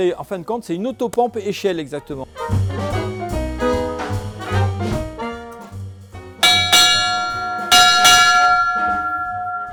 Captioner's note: sound of the bell